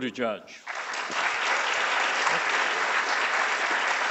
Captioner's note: applauding